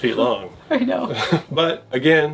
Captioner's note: laughs